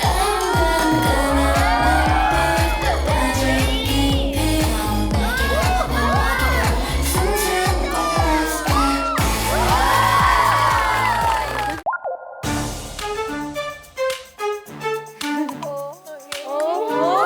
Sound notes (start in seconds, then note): 9.2 applause